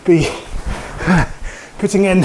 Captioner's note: breathes heavily